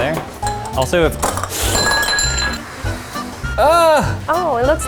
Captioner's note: glass shatters